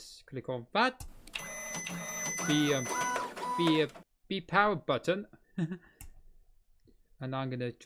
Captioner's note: 3d printer sound